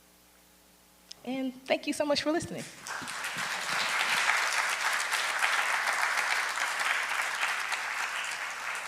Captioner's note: audience applause